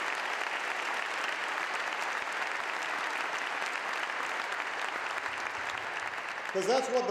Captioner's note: applause